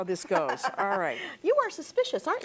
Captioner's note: laughter